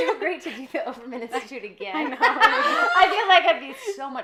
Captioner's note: laughing